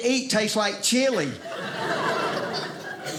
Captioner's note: audience laughing